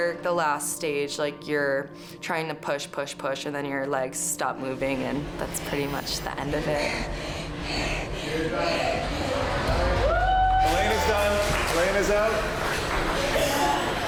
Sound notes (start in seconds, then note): 7.2 wheezes; 9.6 participants cheering